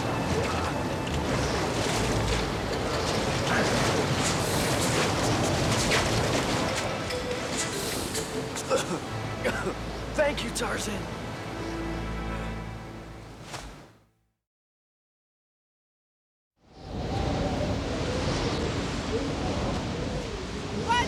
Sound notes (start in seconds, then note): 9.4 Roger coughing; 16.7 wind howling